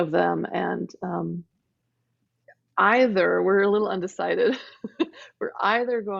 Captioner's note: laughing